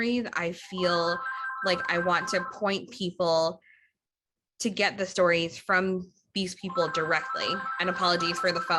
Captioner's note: phone ringing